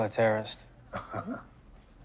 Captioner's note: laughs